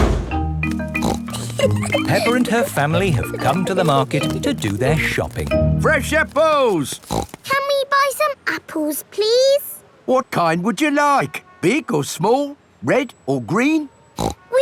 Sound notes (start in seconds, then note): 0.8 snorts and giggles; 6.0 snorts; 14.2 snorts